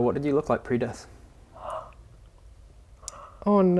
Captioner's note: gasp